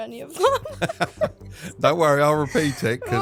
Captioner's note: laughing